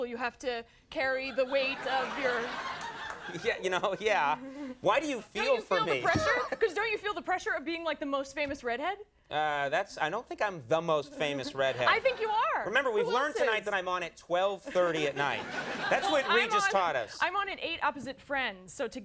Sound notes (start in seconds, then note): 1.3 crowd laughs; 14.7 crowd laughs